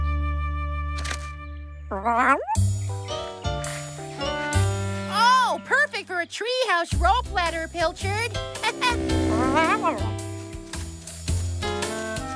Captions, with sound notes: ( Meows ) OH, PERFECT FOR A TREE HOUSE ROPE LADDER, PILCHARD. ( Chuckles ) ( Meows )